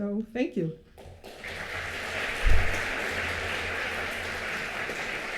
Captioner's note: applause